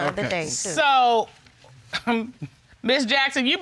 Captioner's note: chuckles